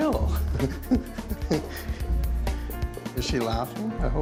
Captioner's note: laughs